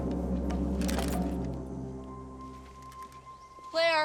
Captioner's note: gun clicks